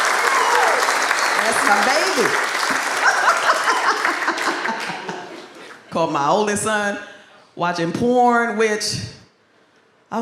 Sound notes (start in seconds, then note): 0.0 audience applauds; 2.6 laughs